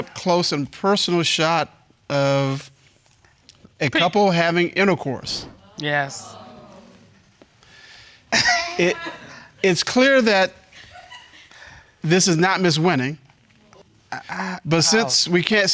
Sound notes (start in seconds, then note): 5.6 audience groans; 10.7 chuckles